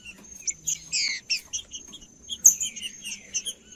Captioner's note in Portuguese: trinca ferro cantando